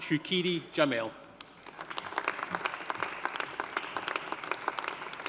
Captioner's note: audience applauding